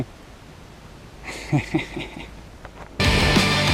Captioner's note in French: rires